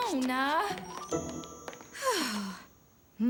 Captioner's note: sighs